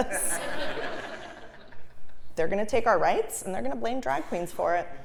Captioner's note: laugh